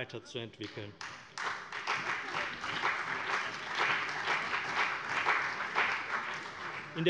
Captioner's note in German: Beifall CDU, BÜNDNIS 90/DIE GRÜNEN und vereinzelt Freie Demokraten